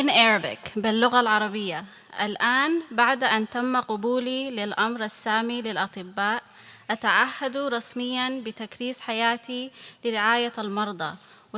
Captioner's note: speaking arabic